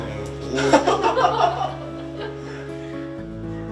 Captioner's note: laughing out loud